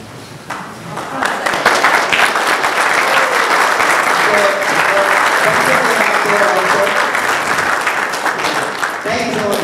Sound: applause

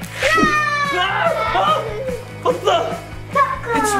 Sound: shouts

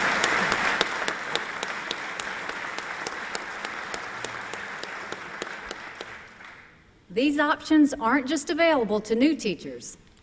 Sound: applause

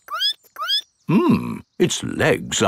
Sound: squeaks

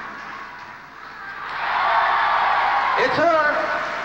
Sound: loud applause; screams and cheers

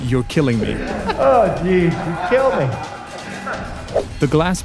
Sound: laughing

